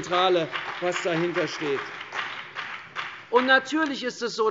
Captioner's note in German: Beifall CDU und BÜNDNIS 90/DIE GRÜNEN